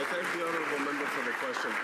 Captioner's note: some Applause